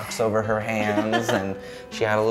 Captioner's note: giggle